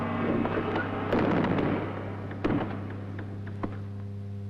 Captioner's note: door thudding